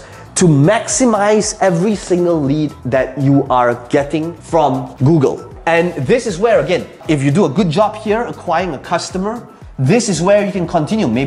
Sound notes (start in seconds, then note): none